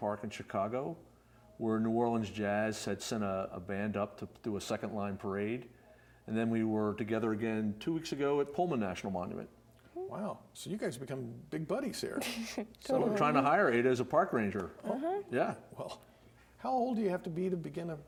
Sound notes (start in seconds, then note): 12.2 giggles